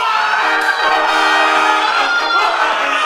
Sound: squealing; screaming

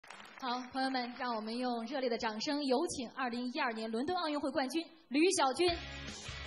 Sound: A round of applause

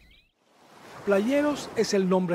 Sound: ocean sound, birds

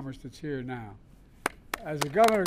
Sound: applause

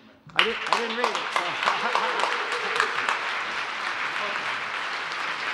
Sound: applause

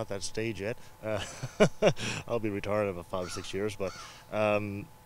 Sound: laughs

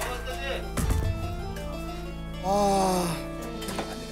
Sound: smoke billowing

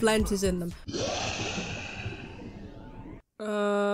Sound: shark growling noises

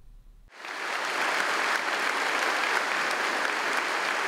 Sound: audience applauds

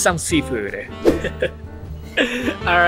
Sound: chuckles

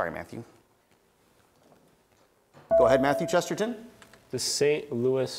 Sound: buzzer beeps

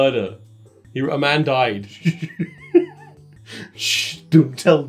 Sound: laughs

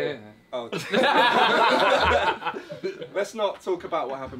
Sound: all laughing

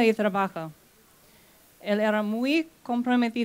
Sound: speaking spanish

